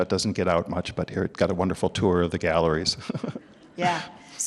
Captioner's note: laughs